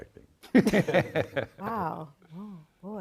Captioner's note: all laughing